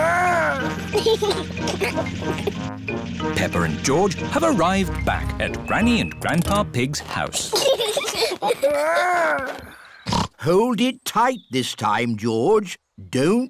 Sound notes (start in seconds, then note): 0.9 giggles; 7.4 both giggling; 10.0 snorts